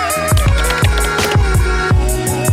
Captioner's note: keyboard clacking; upbeat music